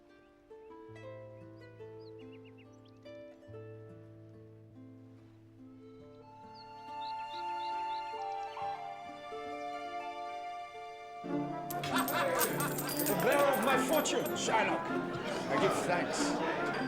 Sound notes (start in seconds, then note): 11.7 laughter